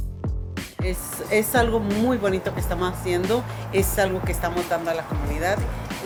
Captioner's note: speaking Spanish